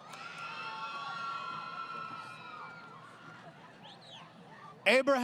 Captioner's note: crowd Cheering